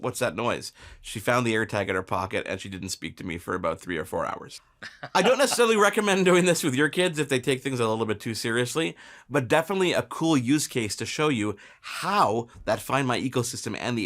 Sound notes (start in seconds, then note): 4.8 laughing